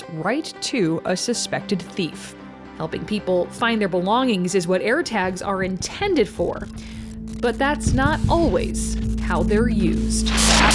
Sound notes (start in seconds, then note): 7.3 static crackles